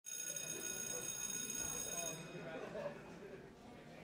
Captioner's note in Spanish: Suena campana escolar